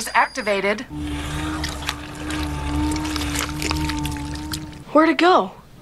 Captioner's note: machinery humming; floor slurping